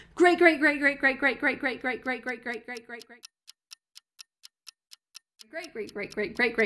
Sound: clock ticking

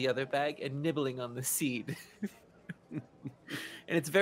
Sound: chuckling

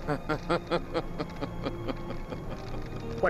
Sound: laughing

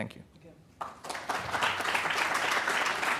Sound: applause

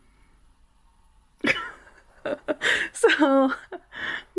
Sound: laughs

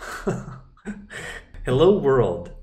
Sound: laughing

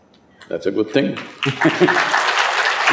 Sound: applause

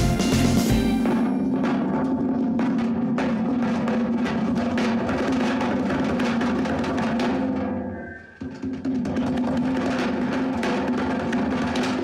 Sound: James drums on the table

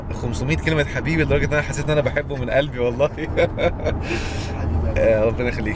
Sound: laughs!

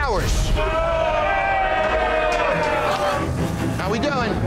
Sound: patrons cheering

